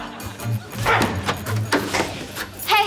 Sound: grunting

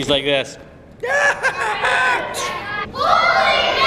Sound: laughing and yelling

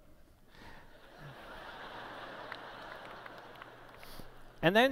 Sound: laughter

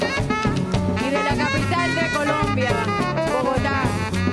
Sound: speaks in Spanish

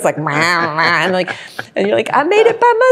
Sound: makes funny, silly noises; laughs

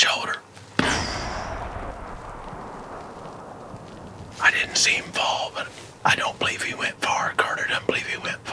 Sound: whispering

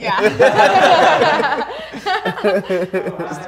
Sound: laughing

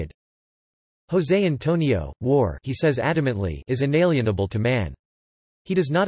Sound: he says adamantly

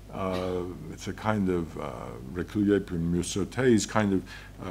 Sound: French

